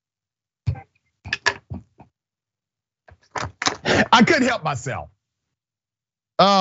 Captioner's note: laugh